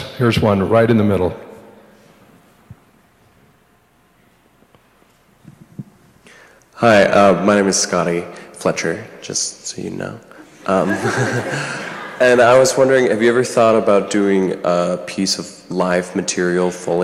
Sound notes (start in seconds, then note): 10.4 laughs; 10.4 audience laughs